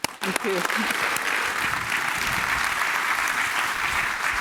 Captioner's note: applause